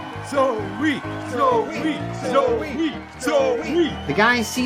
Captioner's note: crowd